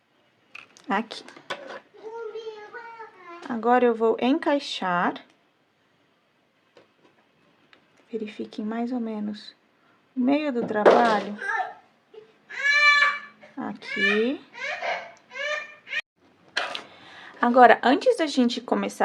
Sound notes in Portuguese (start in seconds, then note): 16.4 choro